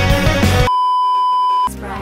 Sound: beeeeeep

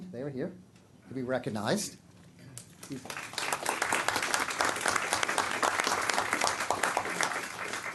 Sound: clapping

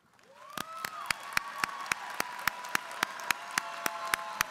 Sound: applause

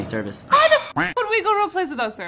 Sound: duck quacking

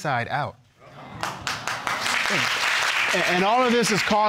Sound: audience exclaiming and applauding

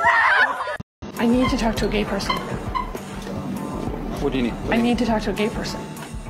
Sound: Tik Tok sound

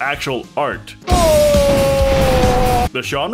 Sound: roast sounds and explosions

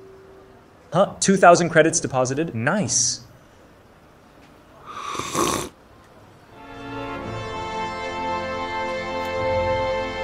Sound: loud slurp

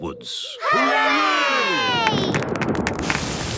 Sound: thunder

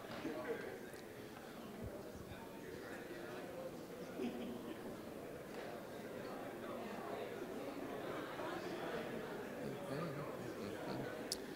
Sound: general chatter

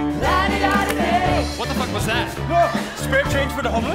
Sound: speaking

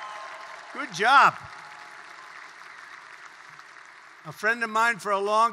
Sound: applause

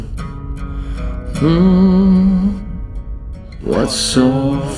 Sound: humming

